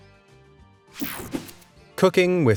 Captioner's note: light, upbeat music; graphics whoosh